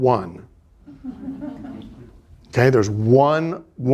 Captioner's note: students laughing